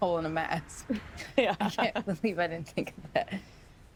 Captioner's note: laughs